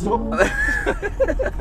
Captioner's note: laughing